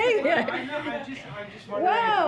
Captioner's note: laughs